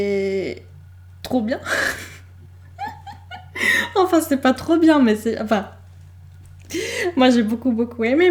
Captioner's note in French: glousse